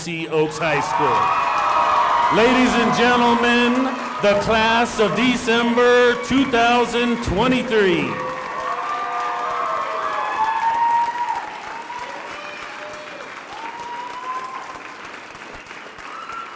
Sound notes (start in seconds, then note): 4.4 cheering and applause